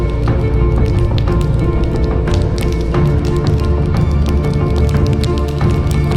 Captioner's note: fire crackling